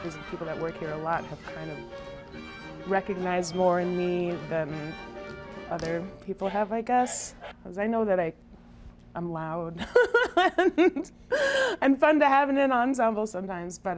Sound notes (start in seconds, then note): 9.8 laughs